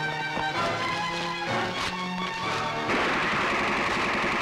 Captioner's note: Rapid gunfire